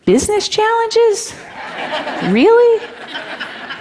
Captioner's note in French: Rires